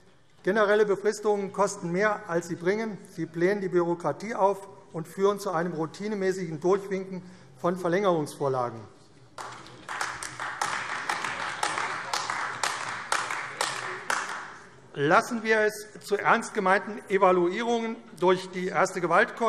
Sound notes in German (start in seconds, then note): 9.3 Beifall AfD